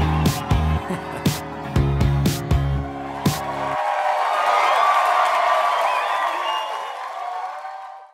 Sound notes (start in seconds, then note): 4.7 applause